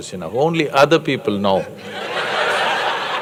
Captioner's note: laughter